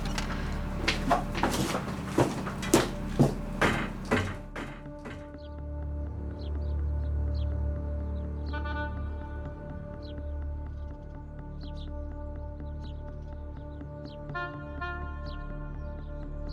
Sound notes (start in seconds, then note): 4.8 bird chirping